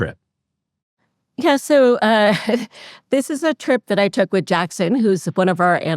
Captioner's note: laughs